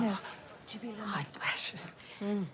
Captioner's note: whispers